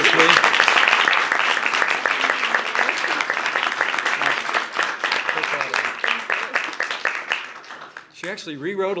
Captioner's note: applause